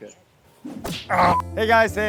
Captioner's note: whooshing, bleeping